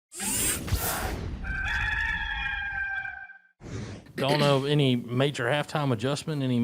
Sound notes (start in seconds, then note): 0.0 robotics shifting rapidly; 1.4 rooster crowing; 3.3 swooshing sound